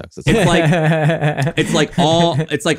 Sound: laughing

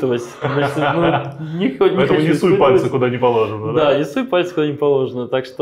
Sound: laughs

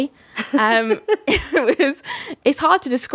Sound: laughs

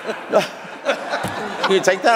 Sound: laughter

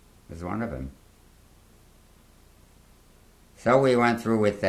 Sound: pauses for 3 seconds

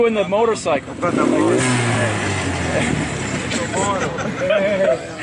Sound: engine revving; group laughing

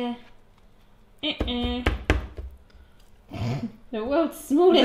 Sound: laughing

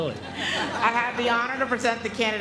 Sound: laugh

